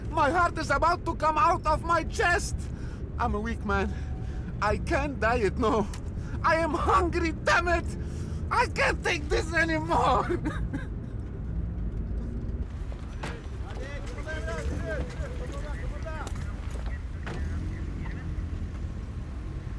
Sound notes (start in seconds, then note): 9.6 crying; 13.5 shouting in a foreign language; 16.1 police radio chattering